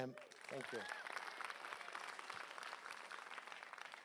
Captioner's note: applause